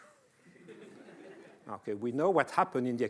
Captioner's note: laughing